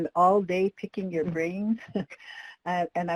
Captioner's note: chuckles